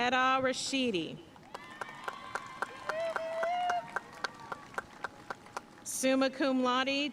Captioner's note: audience cheering and applauding